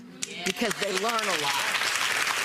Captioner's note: audience applause